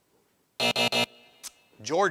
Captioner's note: buzzer buzzing